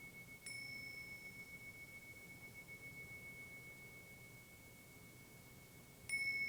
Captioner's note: bell chimes; bell chimes